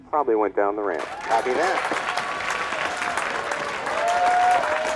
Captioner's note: crowd cheering